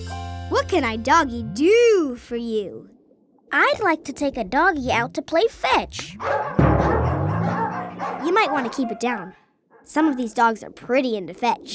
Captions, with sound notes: What can I doggy do for you? I'd like to take a doggy out to play fetch. [barking] You might want to keep it down. Some of these dogs are pretty into fetch.